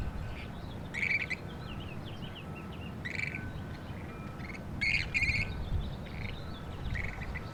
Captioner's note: wind softly blowing, chirping of birds